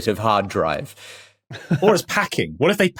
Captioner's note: chuckles